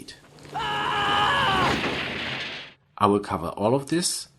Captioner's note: Marty McFly screaming in panic